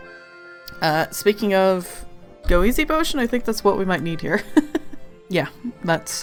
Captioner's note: laughs